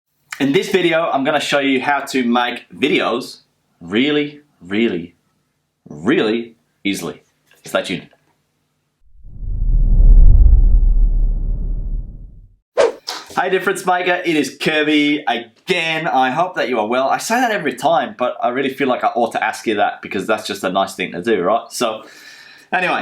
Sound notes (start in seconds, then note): 9.3 muffled thunder rumbling; 12.8 air whooshing